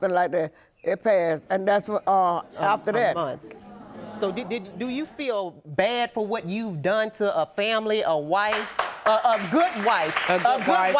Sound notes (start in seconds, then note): 8.5 audience applauding